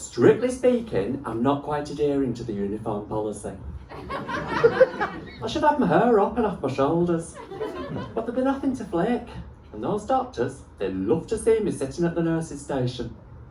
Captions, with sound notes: Strictly speaking, I'm not quite adhering to the uniform policy. (laughter) I should have my hair up and off my shoulders... but there'd be nothing to flick. And those doctors... they love to see me sitting at the nurses' station...